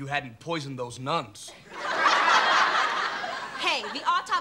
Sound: audience laughing

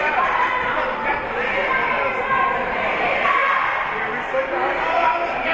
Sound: team chanting

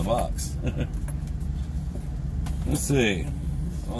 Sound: chuckles

